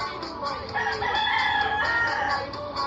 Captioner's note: cock-a-doodle-doo